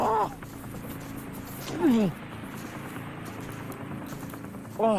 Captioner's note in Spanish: Quejidos